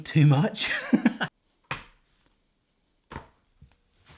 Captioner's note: laughing